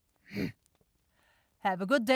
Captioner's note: grunt